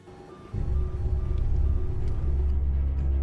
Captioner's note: beeps; phone beeping